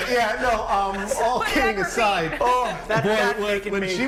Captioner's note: laughter